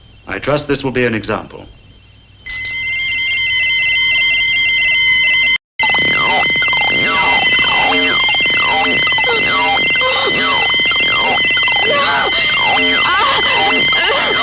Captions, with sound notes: I trust this will be an example. (machinery whistling) (buzzing) (whimpering)